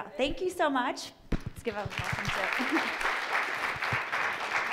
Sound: audience clapping

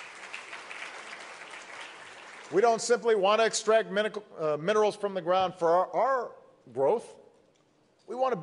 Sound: applause

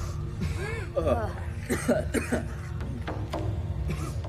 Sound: coughing

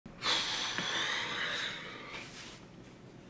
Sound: sighs; clothing rustles

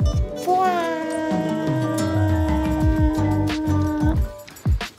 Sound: mysterious sound effect

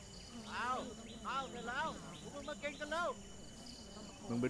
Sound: Malay Language

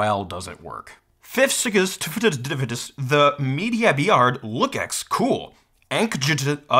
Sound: speaking gibberish

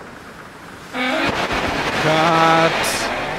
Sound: splashing

